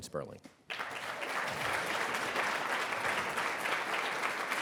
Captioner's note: audience applauding